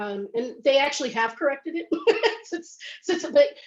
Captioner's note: laughs